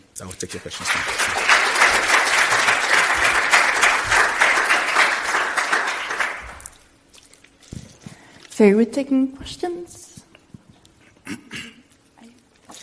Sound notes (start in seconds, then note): 0.3 applause